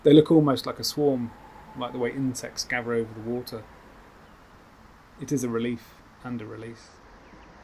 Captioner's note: owl hoots